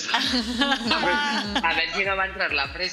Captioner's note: laughing